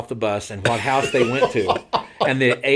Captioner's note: laughing